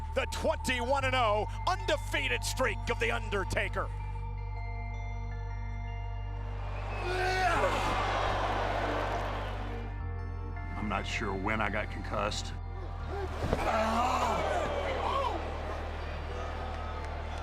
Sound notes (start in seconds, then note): 4.5 pensive music; 7.8 Undertaker grunting; 7.8 crowd murmuring; 14.1 Undertaker grunting